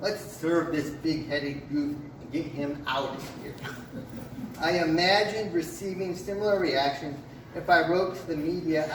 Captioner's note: laughs from the crowd